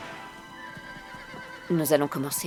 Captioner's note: gentle music continues; horse whinnying